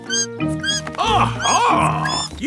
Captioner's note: bat squeaking